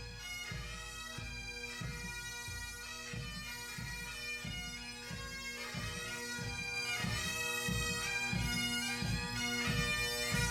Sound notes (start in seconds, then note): none